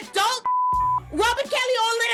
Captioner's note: beep